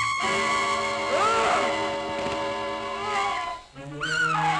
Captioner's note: people screaming